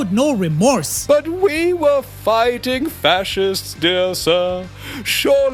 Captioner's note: pompous